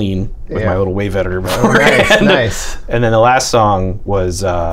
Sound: laughter

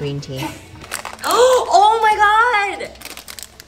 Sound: gasps

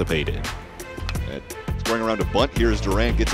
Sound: ball hitting bat

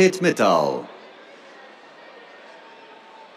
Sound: cheers

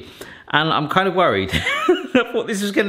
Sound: chuckling

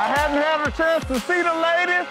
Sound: cheering

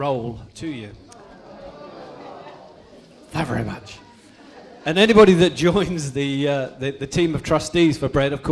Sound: groans

